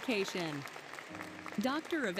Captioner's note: applause, Music